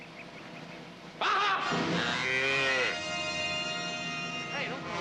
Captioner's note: bellows